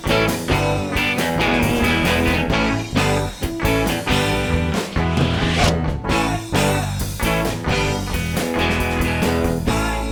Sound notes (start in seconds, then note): 4.9 swoosh